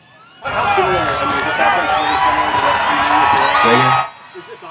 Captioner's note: crowd cheering